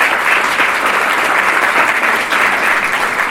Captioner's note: applause